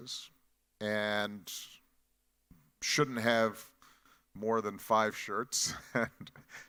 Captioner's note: chuckles